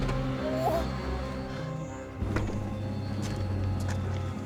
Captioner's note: whimpers; Rachel groans